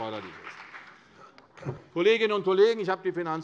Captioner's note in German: Beifall CDU und vereinzelt BÜNDNIS 90/DIE GRÜNEN